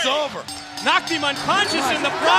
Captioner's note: bell ringing